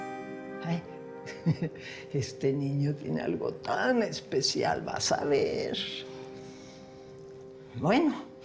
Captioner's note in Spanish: Ríe